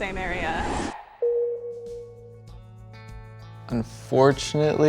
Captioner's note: tone chimes